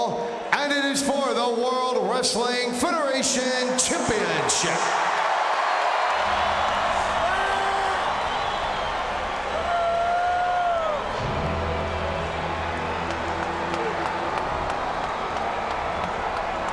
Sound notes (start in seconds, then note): 4.7 crowd cheering; 13.0 fans clapping; 16.4 somber music